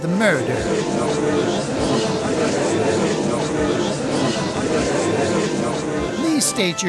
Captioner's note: gallery chattering